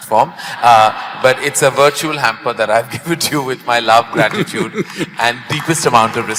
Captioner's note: laughter; both laugh